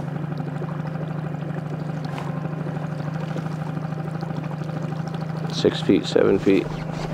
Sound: boat spluttering; somber music

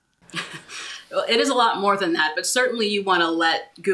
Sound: laughs

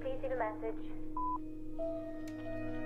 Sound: beep

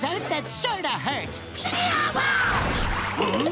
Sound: screaming

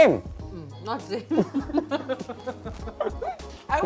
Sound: both laugh

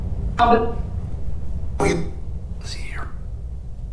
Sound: spirit voices

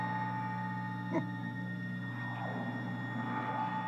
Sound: snickers

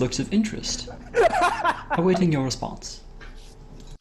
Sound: laughing

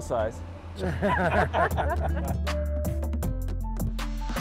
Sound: laughing

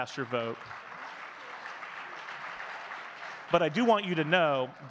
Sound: audience clapping

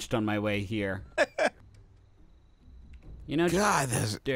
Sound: laughing

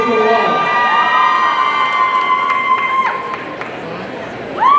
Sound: audience cheering

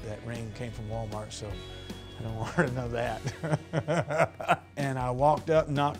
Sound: laughs

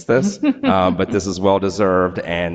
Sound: board member laughing

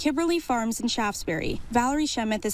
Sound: nats: horses and golf cart

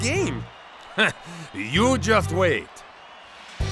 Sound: laughing

